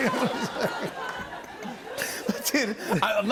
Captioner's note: laughter and applause